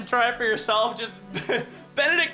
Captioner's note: giggles